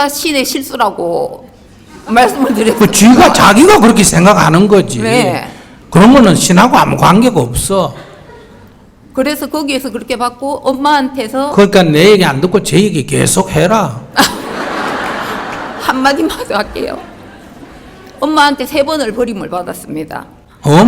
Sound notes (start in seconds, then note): 14.2 audience Laughter